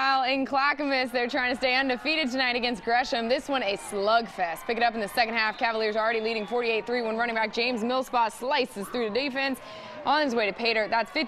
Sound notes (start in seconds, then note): 3.2 cheering